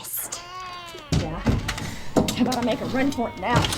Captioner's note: baby crying